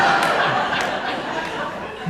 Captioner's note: audience laughing